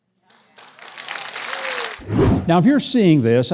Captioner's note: audience applauding